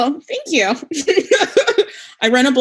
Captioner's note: laughing